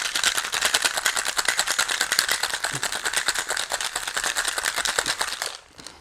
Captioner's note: drink shaking